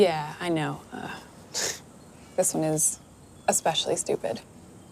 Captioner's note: scoffs